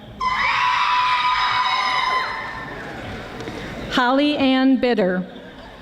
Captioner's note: audience screaming